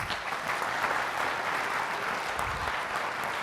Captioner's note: applause